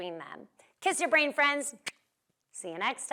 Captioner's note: lips smack